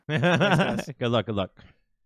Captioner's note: laughing